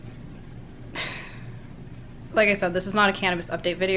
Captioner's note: sighs